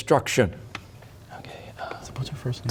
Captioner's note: whispering